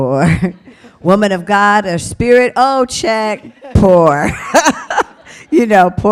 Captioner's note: laughs